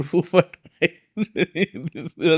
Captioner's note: laughs